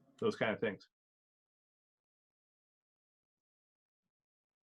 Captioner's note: silence